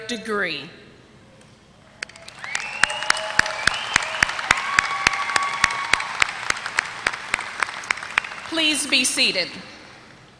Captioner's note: applause